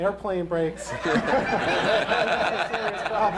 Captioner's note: laughter